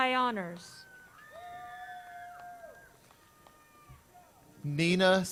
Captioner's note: crowd cheers